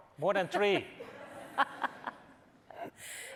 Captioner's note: laughter